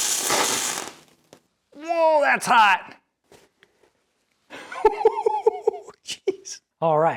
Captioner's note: welding noise